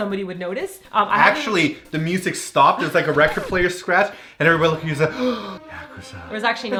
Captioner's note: gasp